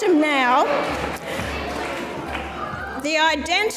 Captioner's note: audience mumbles